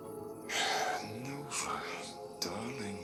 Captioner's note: sigh